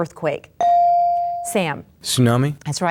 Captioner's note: bell dings